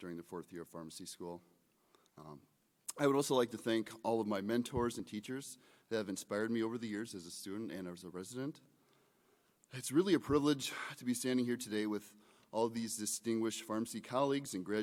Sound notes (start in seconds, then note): none